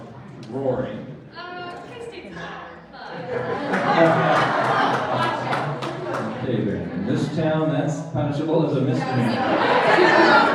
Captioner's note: applause